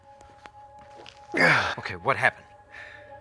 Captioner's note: grunting